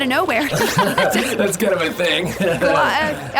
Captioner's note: laughs